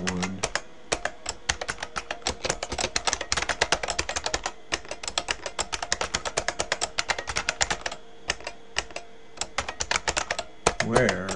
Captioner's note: typing